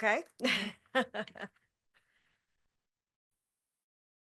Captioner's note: chuckles